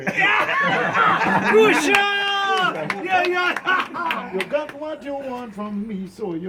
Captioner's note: laughter